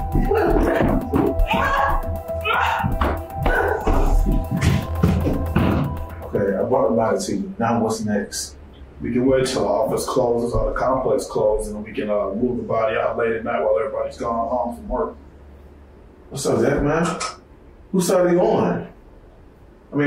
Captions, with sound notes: (Erica screaming) Okay, I brought the ladder to you. Now what's next? - We can wait till the office closes or the complex closes and then we can move the body out late at night while everybody's gone home from work. - What's up Dex man? Whose side are you on?